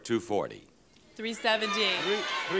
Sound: audience shouts incoherently

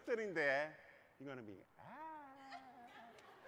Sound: vocalizes

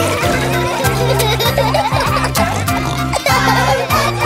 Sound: laughing

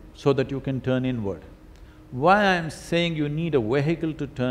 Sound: none

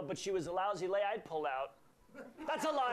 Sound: laughter

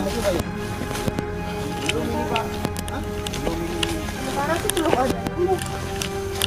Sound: indistict chatter

